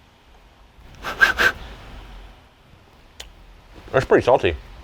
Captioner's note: exhales sharply